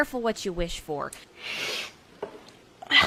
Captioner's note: inhales